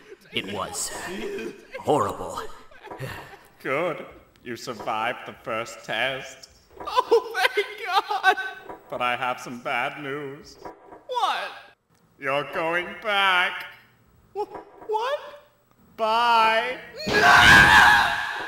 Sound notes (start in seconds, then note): 0.0 Heavy breathing and Krillin muttering something about “darkness”; 7.3 sobbing